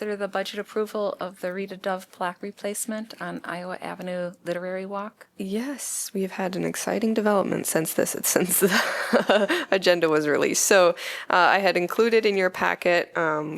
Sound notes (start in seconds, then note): 8.6 laughter